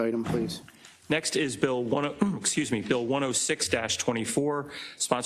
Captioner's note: cough